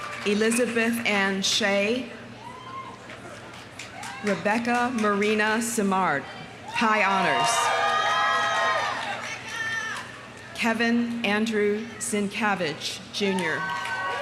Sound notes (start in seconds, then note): 0.0 audience applauding; 0.0 audience cheering; 3.4 audience applauding; 6.7 audience cheering; 7.6 audience applauding; 13.3 audience cheering; 13.6 audience applauding